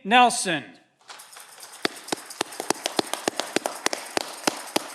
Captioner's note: audience clapping